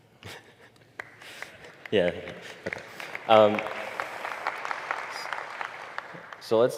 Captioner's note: 박수